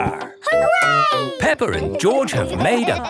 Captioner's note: laughing